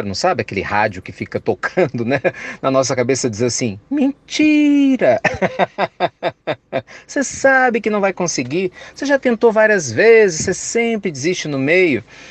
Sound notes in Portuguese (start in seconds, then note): 5.2 Risos